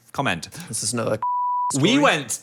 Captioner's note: beeping